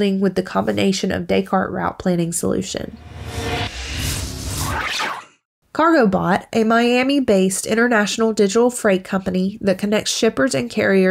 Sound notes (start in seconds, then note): 2.9 digital effects